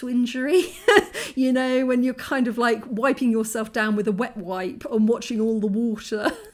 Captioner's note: laughing